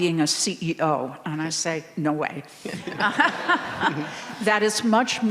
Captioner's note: laughs